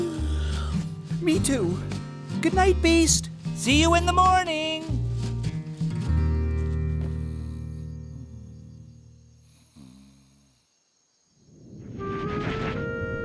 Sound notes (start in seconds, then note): 7.1 snoring